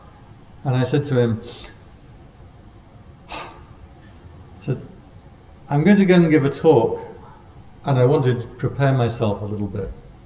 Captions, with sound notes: and I said to him [taking a deep breath] I'm going to go and give a talk and I want to prepare myself a little bit